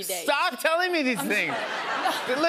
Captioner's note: laughter